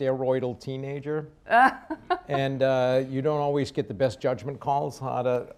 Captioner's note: laughs